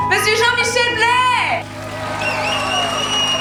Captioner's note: applause